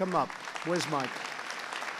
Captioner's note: applause